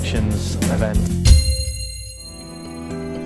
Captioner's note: bell dong